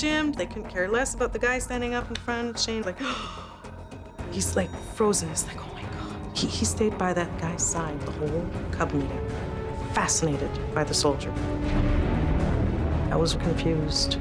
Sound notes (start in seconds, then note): 3.3 gasps